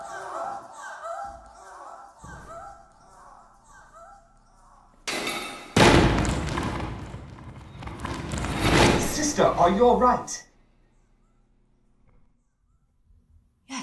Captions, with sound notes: (he grunts) (she cries out and it echoes) (thud) -Sister, are you all right?